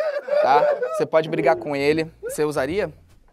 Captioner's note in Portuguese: risadas